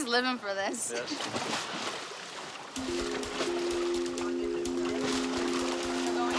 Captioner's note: water splattering; pensive music